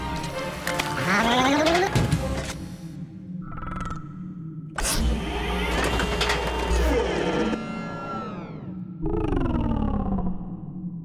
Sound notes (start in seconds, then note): 0.1 shuddering; 4.7 mechanical whirring; 8.6 murmur of approval